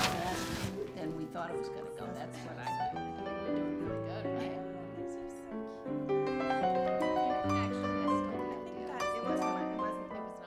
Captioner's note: chattering